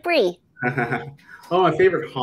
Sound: laughs

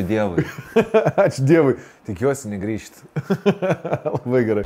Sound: chuckles

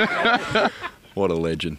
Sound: laughs

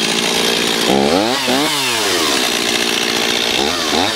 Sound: chainsaw roaring

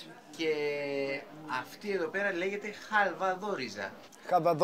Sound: speaking Greek

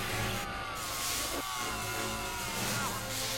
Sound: screaming

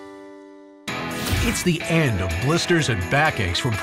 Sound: voiceover

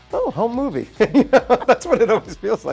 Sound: laughs

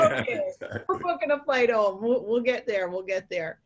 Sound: laughter

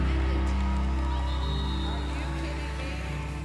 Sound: whistle

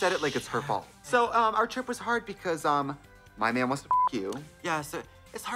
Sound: beep

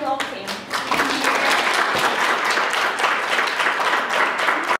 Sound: clapping

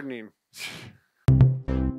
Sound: chuckles

